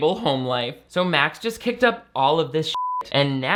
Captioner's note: beep